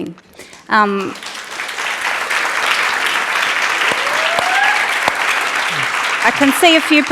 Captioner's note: applause and Cheering